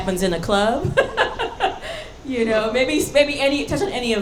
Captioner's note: laughing